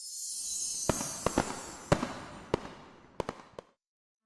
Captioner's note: bells tingling; fireworks popping